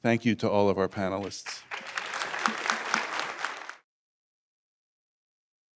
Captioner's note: applause